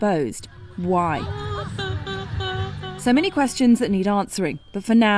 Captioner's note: crowd crying